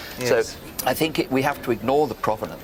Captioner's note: none